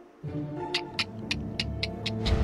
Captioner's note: clicking